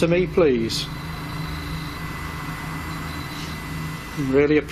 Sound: machine buzzing

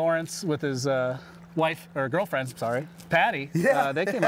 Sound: laughing

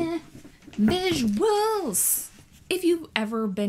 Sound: sing-song

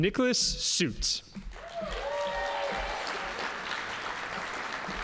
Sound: audience applauding

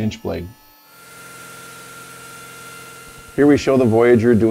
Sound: saw grinding

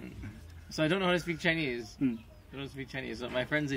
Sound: laughs

